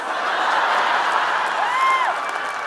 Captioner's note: audience laughing; audience cheering and clapping